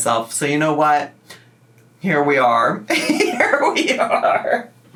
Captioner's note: laughs